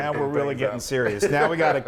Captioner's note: laugh